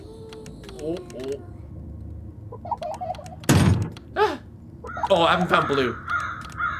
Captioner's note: lound bang